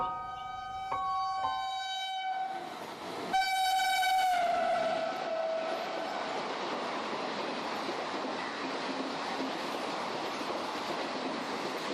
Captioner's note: piano Music Playing; train Approaching Sound